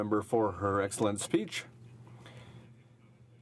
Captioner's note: speaking in french